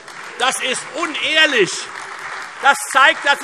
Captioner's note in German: Beifall Freie Demokraten, CDU und AfD